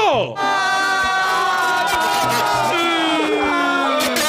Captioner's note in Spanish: gritan todos